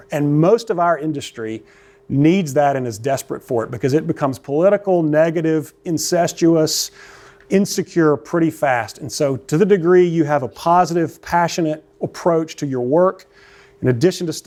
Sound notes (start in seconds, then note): none